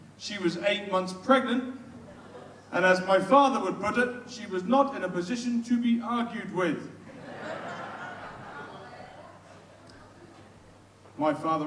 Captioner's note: audience laughs